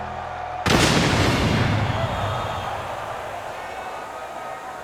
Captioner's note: lighting crashes